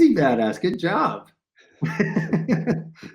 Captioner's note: laugh